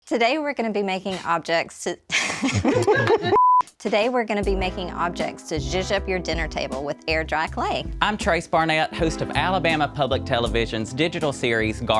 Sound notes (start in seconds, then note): 2.1 laughs; 3.8 both laugh